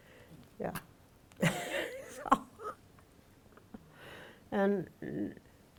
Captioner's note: laughs